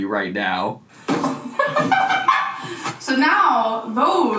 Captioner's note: laughing